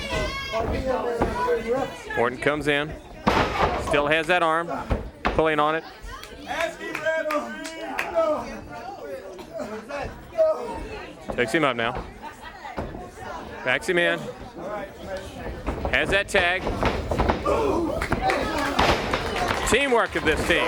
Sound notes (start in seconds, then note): 0.0 crowd chatter; 6.4 crowd chatter